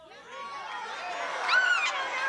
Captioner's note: shouting